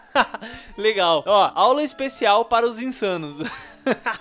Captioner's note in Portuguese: risos; risos